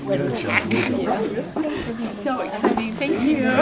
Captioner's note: none